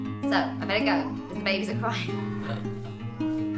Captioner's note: laughs